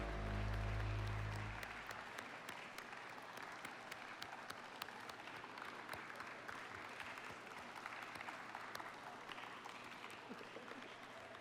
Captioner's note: applause